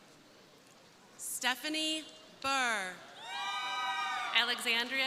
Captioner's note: crowd cheering